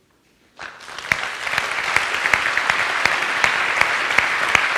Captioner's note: audience clapping